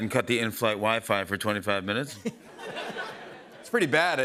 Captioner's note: laughter